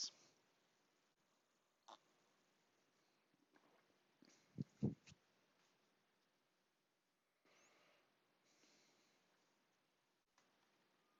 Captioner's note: silence